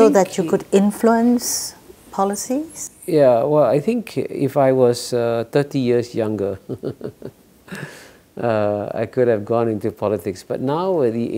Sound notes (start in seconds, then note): 6.6 laugh